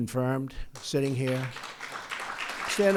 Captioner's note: applause